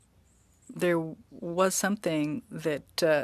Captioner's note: speaking French